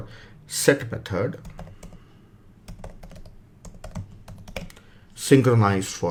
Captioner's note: keyboard tapping